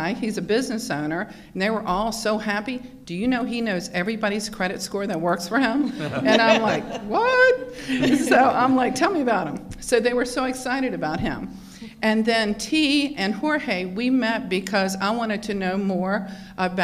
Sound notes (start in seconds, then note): 5.9 laughing